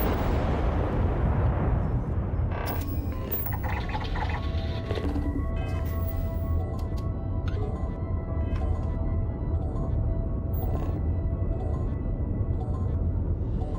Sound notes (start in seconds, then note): 6.6 computer sounds